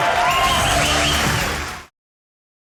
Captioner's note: audience cheering